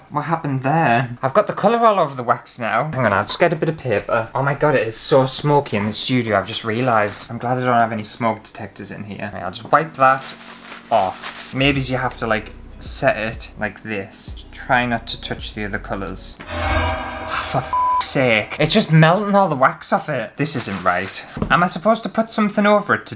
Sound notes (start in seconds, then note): 16.4 dramatic Sound